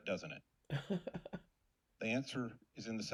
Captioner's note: laughs